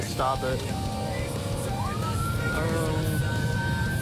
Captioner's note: siren wailing